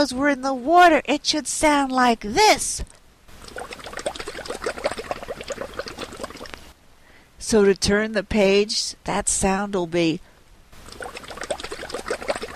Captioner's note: sound of bubbles in water